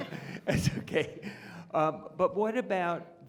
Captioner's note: chuckles